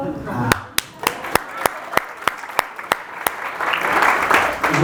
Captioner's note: audience applause